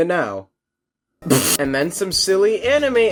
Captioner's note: stiffled laughter